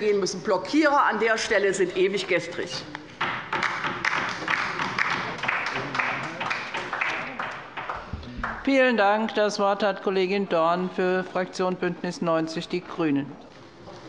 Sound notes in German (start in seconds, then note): 3.5 Beifall bei der LINKEN